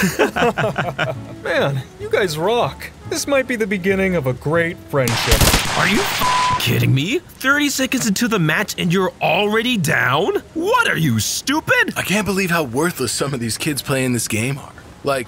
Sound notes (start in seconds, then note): 0.0 all but Burger laughs; 5.9 beep